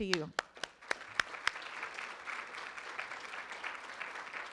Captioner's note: room applauds